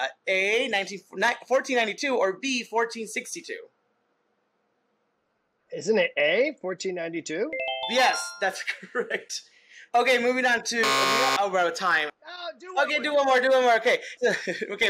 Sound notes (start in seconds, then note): 10.8 buzzer